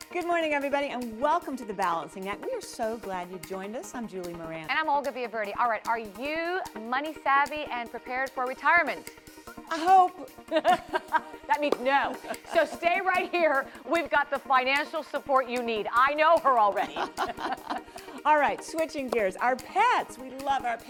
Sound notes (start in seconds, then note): 10.4 laughter